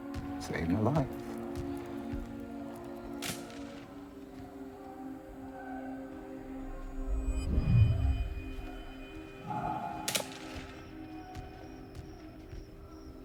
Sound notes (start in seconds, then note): 1.9 men shouting; 3.2 gunfire